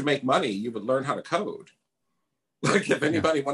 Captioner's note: laughs